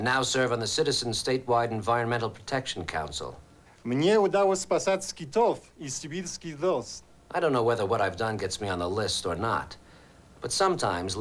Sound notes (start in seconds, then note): 3.8 speaking russian